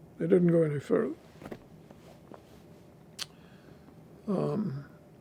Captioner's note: pauses 10 seconds